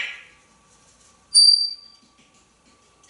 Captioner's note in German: whistling